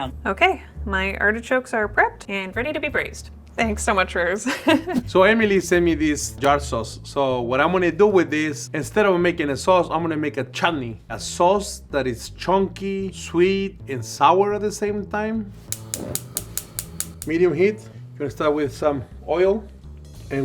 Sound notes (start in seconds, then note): 15.5 click of gas ignition